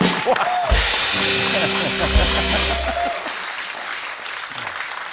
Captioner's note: laughing; laughter